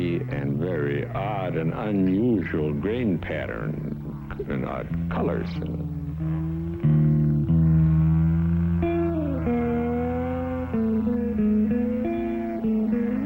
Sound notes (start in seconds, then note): 7.7 gentle music; 7.7 saw buzzing